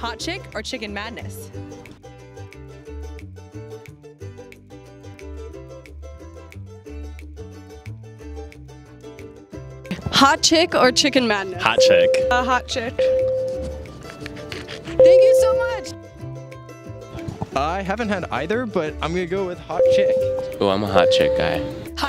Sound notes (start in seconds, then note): 11.8 ding; 13.6 panting; 19.8 ding